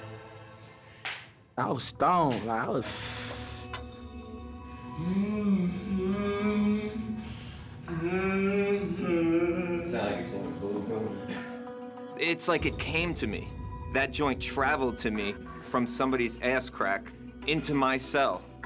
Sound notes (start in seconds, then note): 2.8 exhales; 4.8 humming